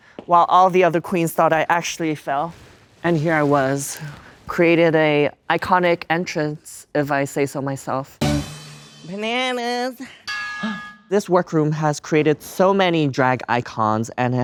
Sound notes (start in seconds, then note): 8.2 upbeat music; 10.3 drag queen gasps; 10.3 metal clangs